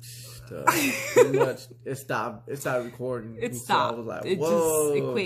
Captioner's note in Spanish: Risas